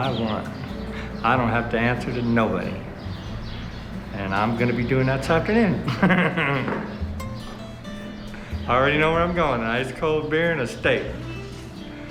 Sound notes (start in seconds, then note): 5.6 chuckles